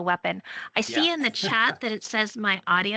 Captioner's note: laughing